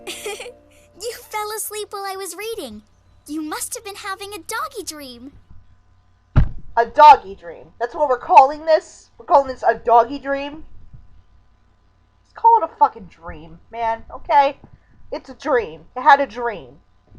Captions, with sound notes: - (laughing) You fell asleep while I was reading. You must have been having a doggie dream! (thunk) A Doggie Dream. That's what we're calling this? We're calling this a Doggie Dream™? Just call it a fuckin' dream, man. Okay? It's a dream. You had a dream.